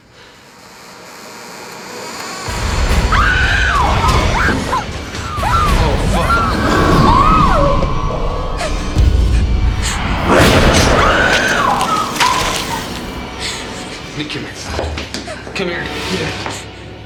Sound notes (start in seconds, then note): 0.2 door creaking; 3.1 girl screaming; 6.7 girl screams; 6.7 tense music; 6.9 girl screams; 6.9 tense music